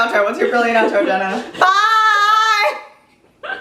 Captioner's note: screams annoyingly